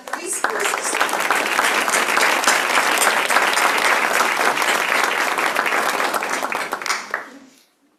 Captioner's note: applause